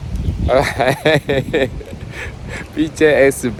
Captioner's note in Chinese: 苦笑